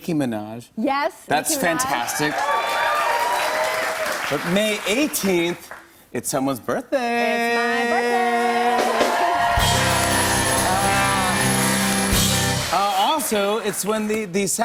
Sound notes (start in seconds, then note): 1.7 cheers and applause; 7.5 cheers and applause